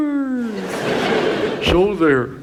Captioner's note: audience laughs